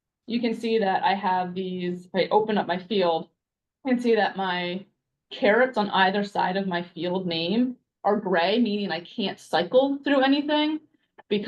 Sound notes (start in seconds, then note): none